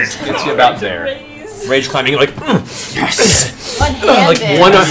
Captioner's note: grunts